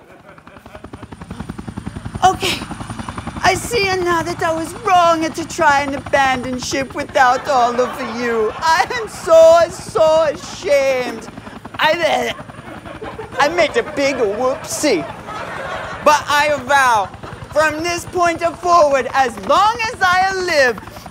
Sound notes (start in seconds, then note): 0.1 helicopter blades whirring; 12.0 chokes